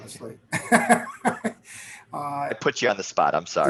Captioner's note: laughs